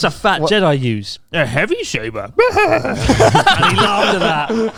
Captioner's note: laughs deeply; all laughing quickly